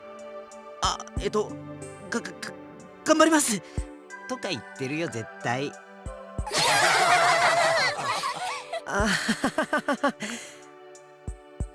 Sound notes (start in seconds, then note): 6.5 laugh; 9.6 awkward laugh